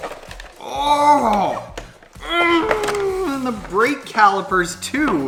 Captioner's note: grunts